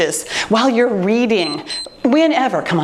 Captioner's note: timer beeps